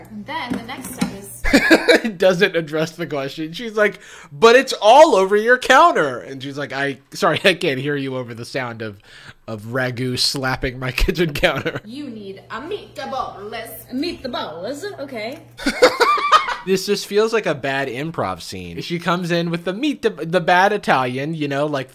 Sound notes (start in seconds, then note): 1.4 laughs; 15.6 laughing